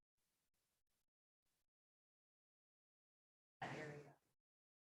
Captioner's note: faintly speaking